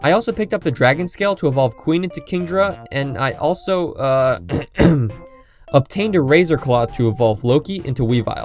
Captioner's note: clear throat